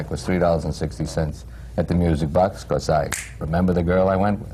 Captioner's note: snaps his fingers